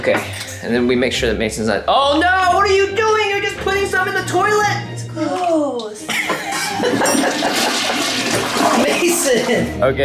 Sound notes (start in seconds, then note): 6.2 toilet flushes